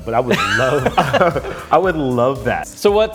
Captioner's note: hosts laughs